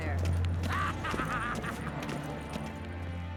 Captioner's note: laughs